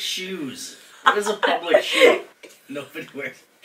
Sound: laughing

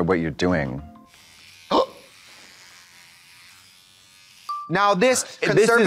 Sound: electric razor buzzes

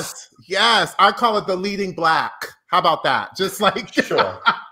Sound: laughs

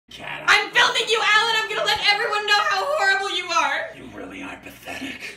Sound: yelling

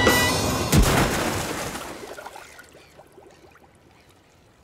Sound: loud splash

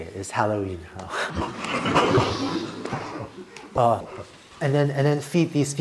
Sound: laughter

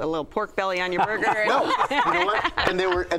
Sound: laughter

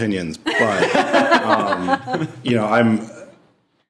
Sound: all laughing

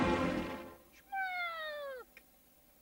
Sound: Mimsie mewing

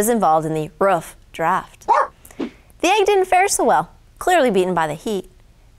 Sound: dog barks

